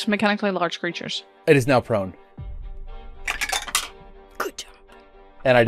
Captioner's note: dice clacks; whispering